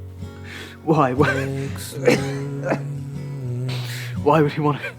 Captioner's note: coughs